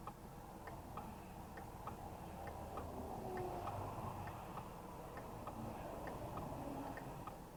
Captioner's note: loud fast-moving traffic sounds